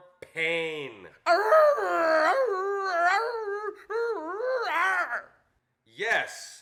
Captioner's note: actor growls and whimpers